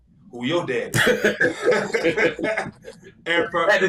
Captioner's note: both laughing